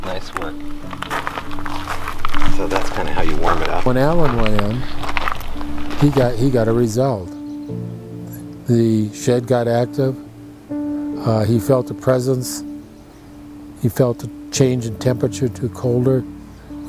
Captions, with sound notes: Nice work. (footsteps thudding) So that's kinda how you warm it up. - When Alan went in, (footsteps thudding) he got a result. The shed got active, he felt a presence. He felt a change in temperature to colder,